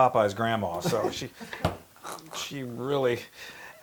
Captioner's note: laugh